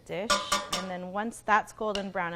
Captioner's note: taps utensil